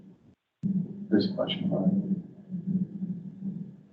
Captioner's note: speaks softly